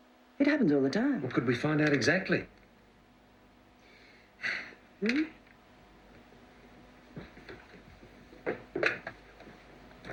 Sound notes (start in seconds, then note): 4.4 sighs